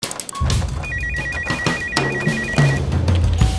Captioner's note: upbeat music; phone ringing; upbeat music